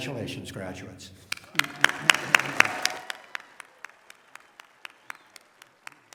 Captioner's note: applause